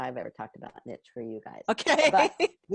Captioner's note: laughing